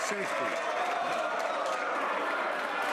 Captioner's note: some Applause